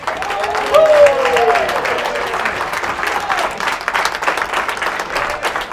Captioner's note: applauding